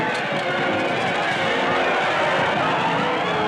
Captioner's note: yelling